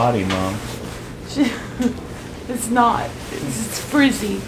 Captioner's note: laughs